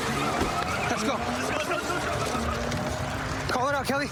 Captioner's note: shouting